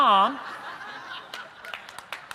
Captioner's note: laughter; applause